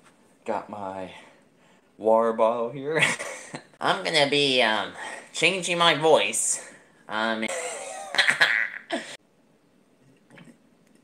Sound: insert more laughing

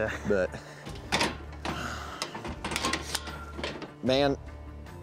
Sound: closing gate

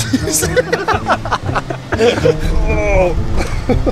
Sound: laughing

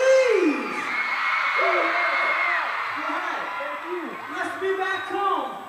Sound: audience cheering

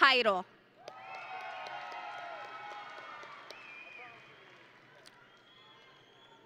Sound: audience and graduates cheering

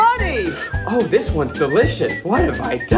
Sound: slurping

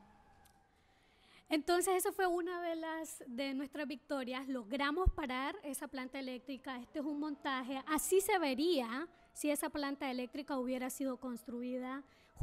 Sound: speaking spanish

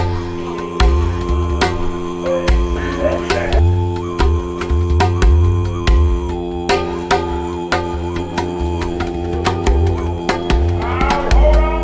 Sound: buzzing

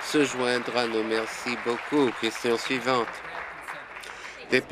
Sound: applause

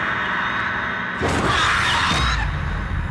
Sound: shriek

